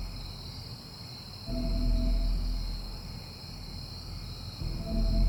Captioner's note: dramatic music; insects chirping; dramatic music